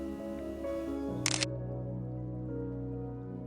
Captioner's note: shutter clicks